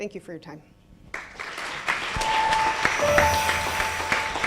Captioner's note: applause